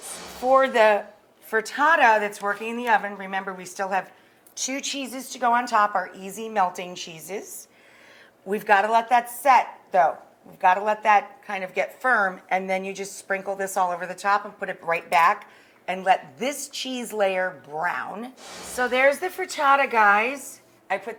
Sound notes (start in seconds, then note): 18.4 whooshing